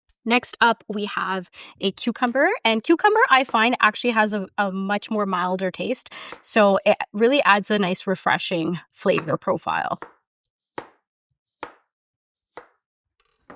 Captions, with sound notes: Next up we have a cucumber, and cucumber I find actually has a much more milder taste, so it really adds a nice refreshing flavor profile. (knife thudding)